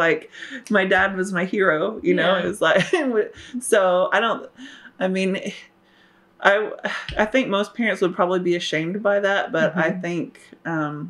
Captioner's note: laughs